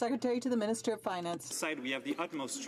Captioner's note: some Applause